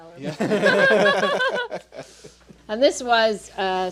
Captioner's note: all laughing